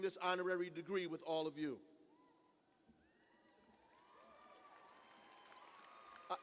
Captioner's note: cheers